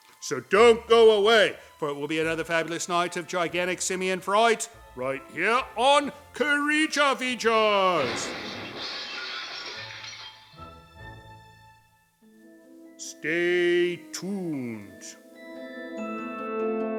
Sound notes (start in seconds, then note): 7.9 crashing sounds